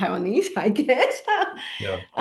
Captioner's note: laughs